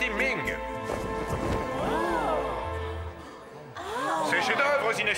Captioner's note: oohs and ahs